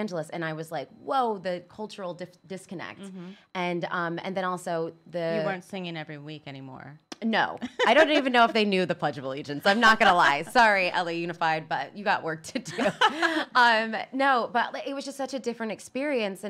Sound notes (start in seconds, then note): 7.6 laughs; 12.7 laughs